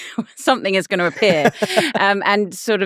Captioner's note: laughing